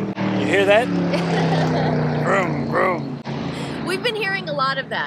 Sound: car passing

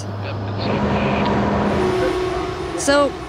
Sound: plane engine roaring

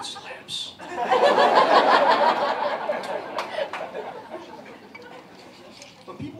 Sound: laughter

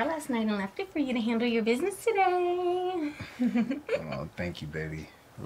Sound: Nikki giggling

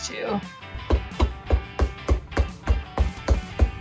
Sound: hammering

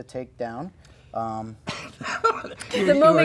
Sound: laughing

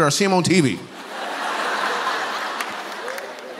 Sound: laughter

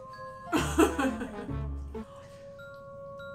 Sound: laughing

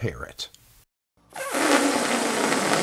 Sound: balloon deflating

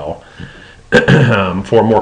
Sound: clears throat

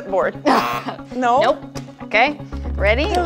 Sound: buzzer sounds

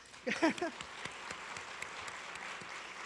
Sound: applause

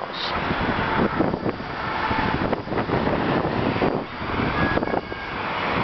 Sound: wind noise

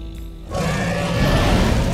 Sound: dragon roars

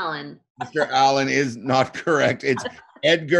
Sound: chuckling

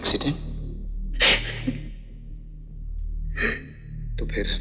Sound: sobbing

